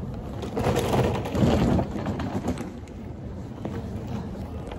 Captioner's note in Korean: 캐리어 소리